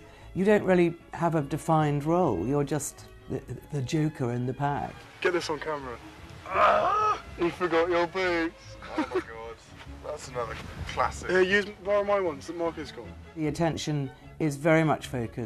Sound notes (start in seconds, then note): 6.4 William yells; 8.6 laughs